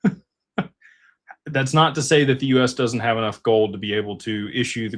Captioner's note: laughter